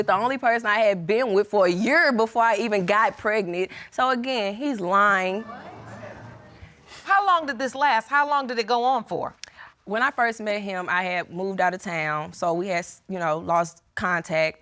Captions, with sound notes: the only person that I had been with for a year before I even got pregnant. So, again, he's lying. [audience murmuring] How long did this last? How long did it go on for? When I first met him, I had moved out of town, so we had, you know, lost contact.